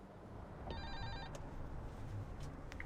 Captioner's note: buzzer ring